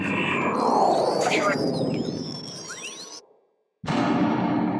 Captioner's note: scene whooshes; scene buzzes; scene thuds